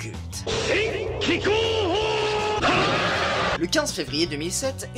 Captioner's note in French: cri de Ten Shin Han